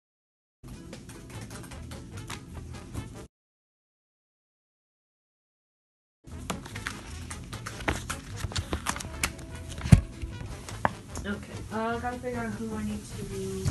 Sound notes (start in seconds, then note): 2.3 snap